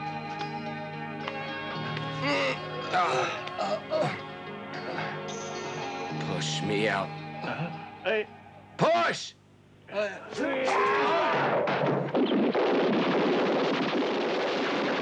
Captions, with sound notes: (man grunts) Push me out. - Hey. - Push! (men grunt) (guns blasting)